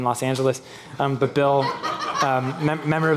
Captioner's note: laughing